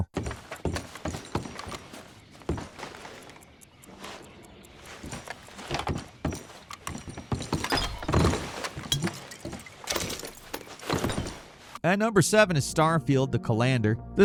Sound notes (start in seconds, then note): 0.2 footsteps plodding; 7.6 utensils clattering; 9.1 liquid sloshing